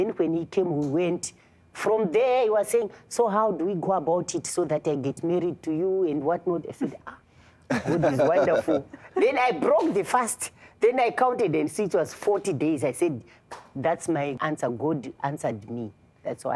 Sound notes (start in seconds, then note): 7.6 laughter; 10.5 claps; 12.6 claps